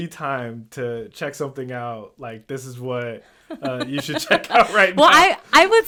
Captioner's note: laughs